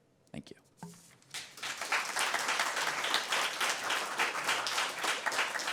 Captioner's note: applause